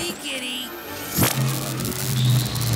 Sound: laser shooting

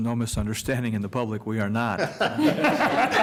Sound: laughter

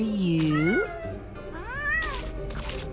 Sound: meowing

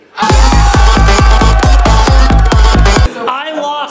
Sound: yells; dance music

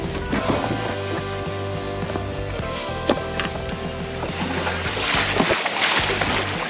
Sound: fish splashing

